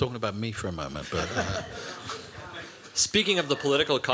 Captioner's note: laughter